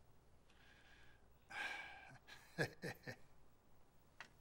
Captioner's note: laughs